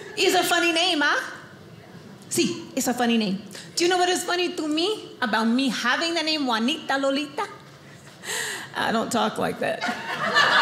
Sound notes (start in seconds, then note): 8.3 switches to Southern accent; 9.8 audience laughing